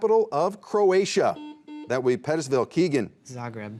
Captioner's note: buzzer beeps